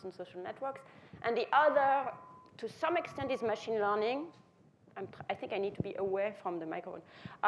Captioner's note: feedback noise